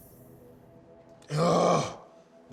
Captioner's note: groaning